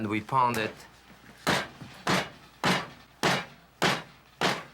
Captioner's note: pounding